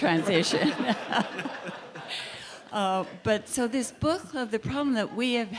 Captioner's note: laugh